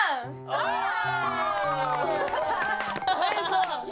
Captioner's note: burst out in laughter